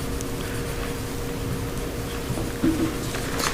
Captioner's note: gavel bangs